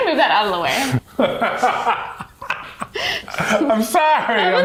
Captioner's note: laughs